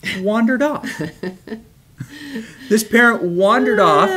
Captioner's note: laughs